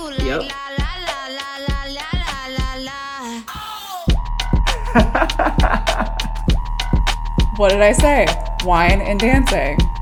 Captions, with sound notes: - Yep (laughing) - What did I say? Wine and dancing.